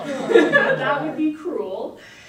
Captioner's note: audience laughs